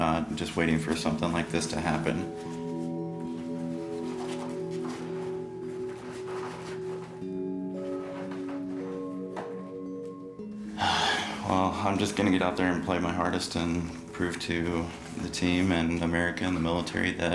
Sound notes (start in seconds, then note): 10.6 sighs